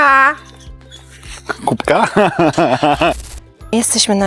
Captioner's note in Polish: śmiech